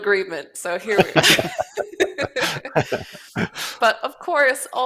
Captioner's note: laughter